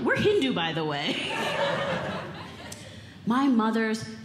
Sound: audience Laughing

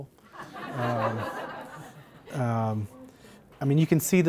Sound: laughter

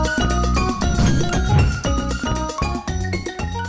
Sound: whooshes; lively tropical music

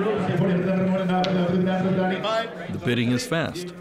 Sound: auctioneer shouting

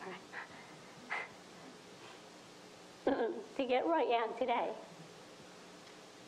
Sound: clears throat; breathing heavily

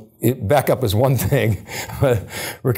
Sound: chuckles

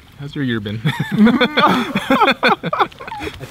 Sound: all laughing

